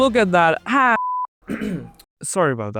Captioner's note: clears throat